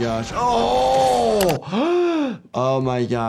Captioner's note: gasping